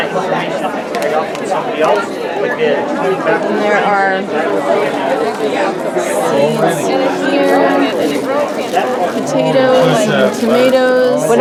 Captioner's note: crowd noise